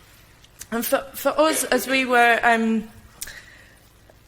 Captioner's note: none